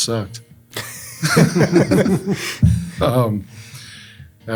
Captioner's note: group laughs